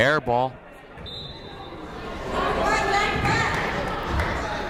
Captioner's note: whistle blows